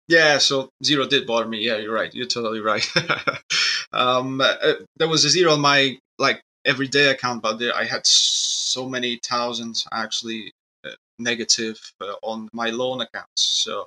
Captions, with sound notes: Yeah, so zero did bother me, yeah, you're right, you're totally right. (laughs) There was a zero in my like every day account, but I had so many thousands actually negative on my loan accounts.